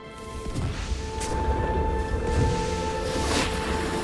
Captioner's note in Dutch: knisperende sneeuw; slee schraapt